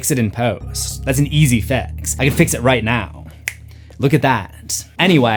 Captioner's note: snap